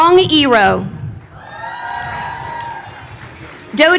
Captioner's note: crowd cheering